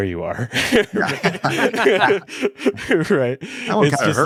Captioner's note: everyone laughing